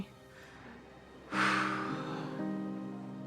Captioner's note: exhales sharply